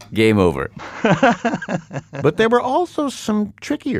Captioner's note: laughs